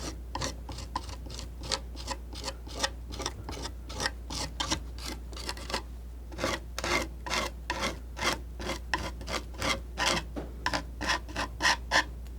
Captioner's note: scratching